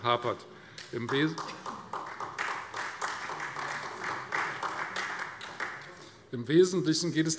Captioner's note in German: Beifall Freie Demokraten und vereinzelt SPD